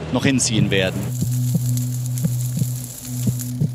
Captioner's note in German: Töne des Herzklopfens